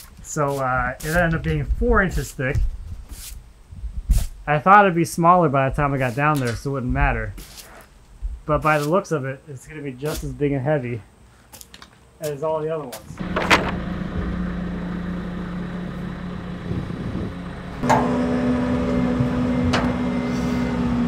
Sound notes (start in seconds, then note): 13.1 engine running; 18.2 engine revving